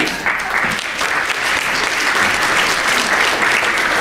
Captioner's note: applause